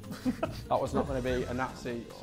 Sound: Sidemen laughing

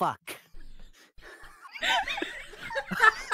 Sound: intense wheezing

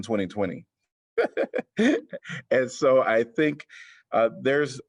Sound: laughter

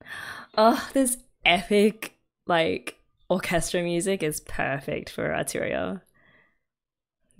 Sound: gasps

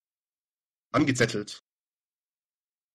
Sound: fast Pronunciation

